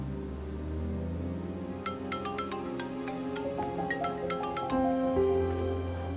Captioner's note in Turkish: Telefon Çalıyor